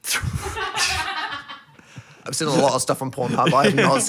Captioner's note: producers laugh